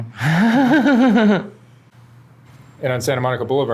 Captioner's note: laughs